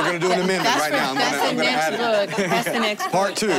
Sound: laughing

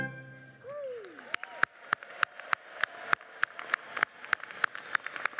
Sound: cheering and applause

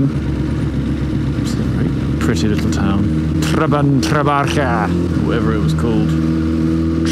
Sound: guttural noise mostly!

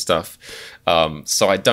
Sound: inhales

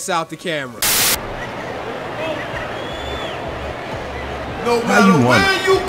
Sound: crowd cheering

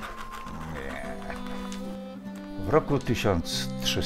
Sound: the sound of words being crossed out

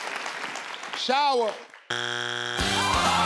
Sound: buzzer buzzing; upbeat music

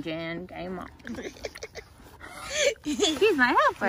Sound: laughing

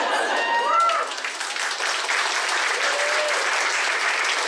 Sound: applause

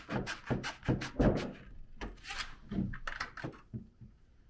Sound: snips scraping

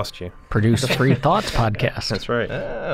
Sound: laughter

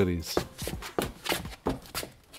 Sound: shuffling shoes

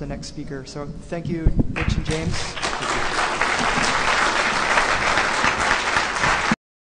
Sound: applause

